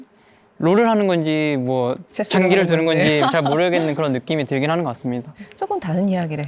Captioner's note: laughs